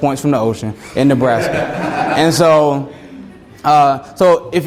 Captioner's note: students laugh